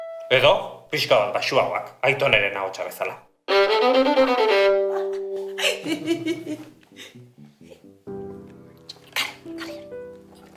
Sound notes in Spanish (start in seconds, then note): 5.5 Risas